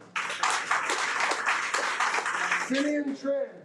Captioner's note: audience applauding